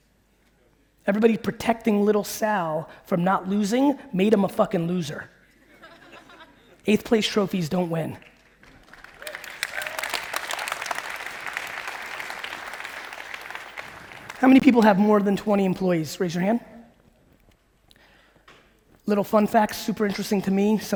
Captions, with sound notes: Everybody protecting little Sal from not losing, made him a fucking loser. (audience laughing) Eight place trophies don't win. (audience clapping) How many people have more than 20 employees? Raise your hand. Little fun fact, super interesting to me,